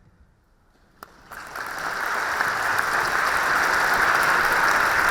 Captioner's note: audience applauding